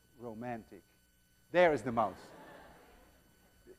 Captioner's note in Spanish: Estudiantes se ríen